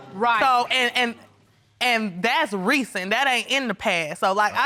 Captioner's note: stammers